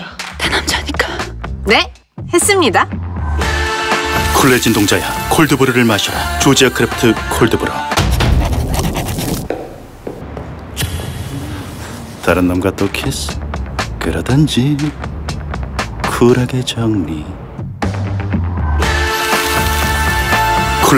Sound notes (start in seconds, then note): 3.8 cool, assertive music; 8.4 sound of footsteps; 17.6 cool, assertive music